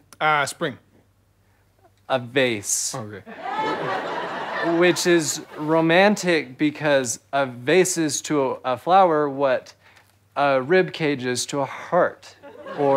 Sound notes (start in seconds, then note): 3.4 audience chuckles